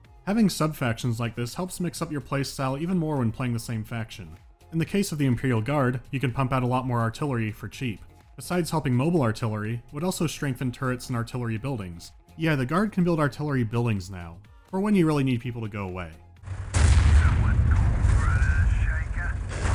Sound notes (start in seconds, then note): 16.4 boom